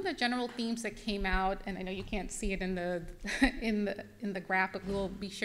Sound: chuckles

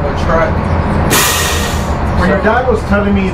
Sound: machinery sputters

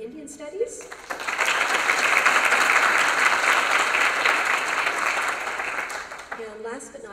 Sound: applause

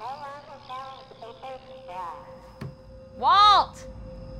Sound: broken pa sounds

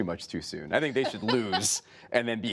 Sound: laughter

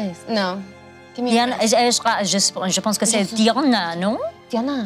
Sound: speaks in foreign language

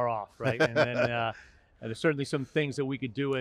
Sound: laughing

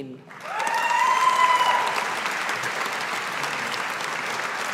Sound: audience applauding

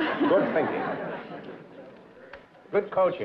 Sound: laughter

